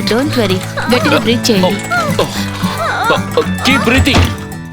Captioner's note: breathing sounds; breathing sounds